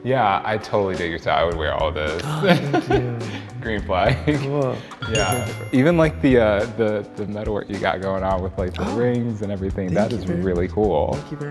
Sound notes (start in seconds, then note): 2.2 laughs; 5.0 bell chimes